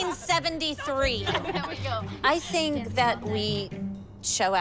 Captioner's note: laughter